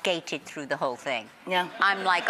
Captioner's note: audience laughs